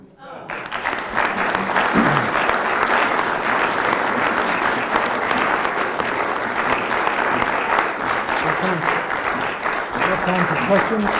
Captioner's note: applause